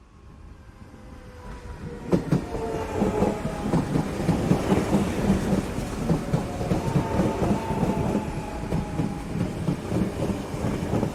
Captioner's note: rhythmic sounds of electric train pulling into station